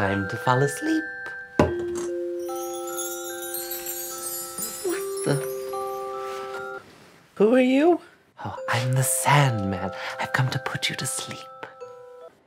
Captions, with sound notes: - Time to fall asleep. (chimes ring) - What the... Who are you? - Oh, I'm the Sandman, I've come to put you to sleep.